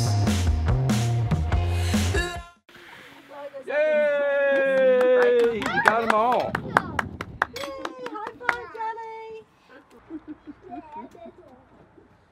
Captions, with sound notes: Yay!! You got them all. [clapping] Yay. High five.